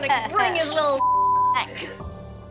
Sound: beeping

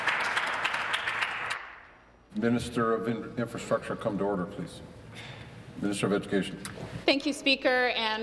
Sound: applause

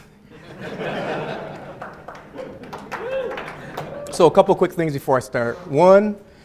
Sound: audience laughing

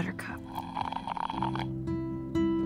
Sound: soft guitar music; Chloe slurping

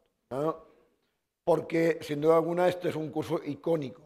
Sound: speaking spanish

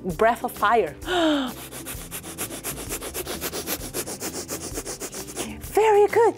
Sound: quick short breaths

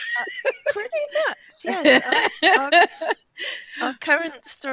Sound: laughing

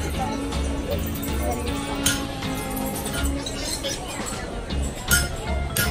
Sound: guitar music; animals chirping; tool clinking

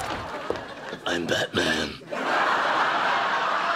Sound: gravelly voice

